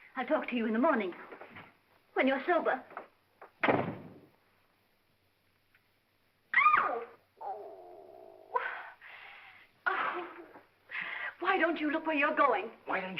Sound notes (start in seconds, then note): 3.6 door closes hard; 6.6 Gail yelps & moans; 7.4 Gail grumbles